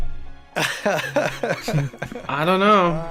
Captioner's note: laughs